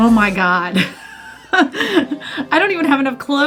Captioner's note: laughing